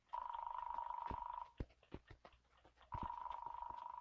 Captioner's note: dial tone buzzing